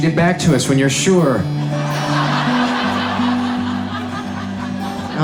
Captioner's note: audience laughs